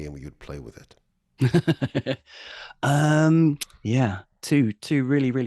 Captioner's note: laughs